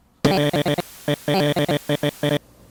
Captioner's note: audio glitching